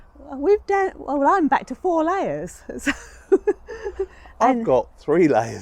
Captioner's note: laughs